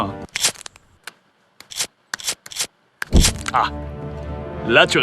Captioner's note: sound of a lighter, followed by the sound of a flame